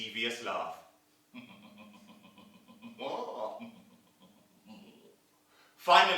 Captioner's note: sound of evil laughing